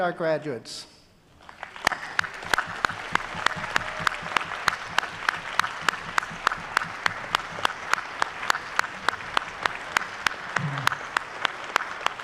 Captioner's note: audience applauding and cheering